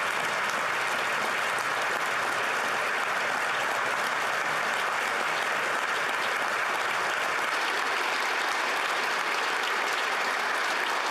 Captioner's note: applause